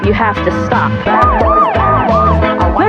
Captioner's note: siren